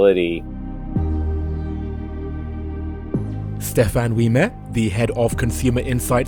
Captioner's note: voiceover